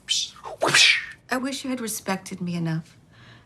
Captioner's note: Trixie imitates cutlass swishing